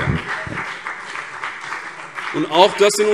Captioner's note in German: Beifall BÜNDNIS 90/DIE GRÜNEN und vereinzelt CDU